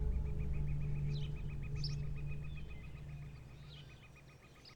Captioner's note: birds chirp